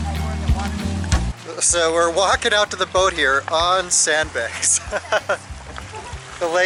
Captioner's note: laughter